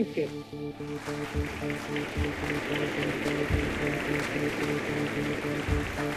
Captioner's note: audience applauds